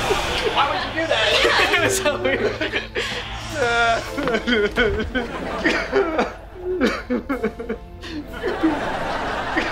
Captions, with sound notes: Why would you do that? You're something. [laughing] [crying]